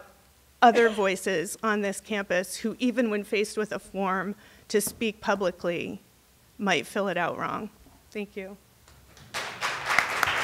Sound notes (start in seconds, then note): 9.1 applause